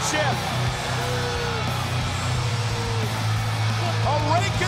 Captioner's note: upbeat music; audience cheering